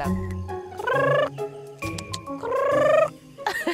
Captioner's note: imitating chicken sound